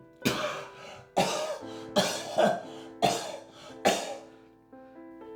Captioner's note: coughing